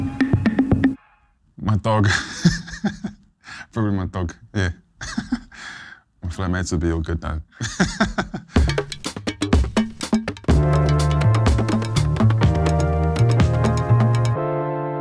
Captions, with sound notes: My dog. Probably my dog, yeah. My flatmates would be all good. (laughs)